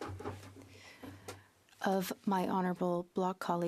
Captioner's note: speaking French